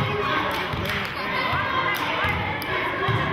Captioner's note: chanting